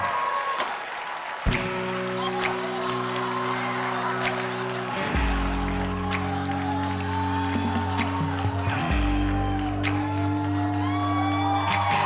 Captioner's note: cheers and applause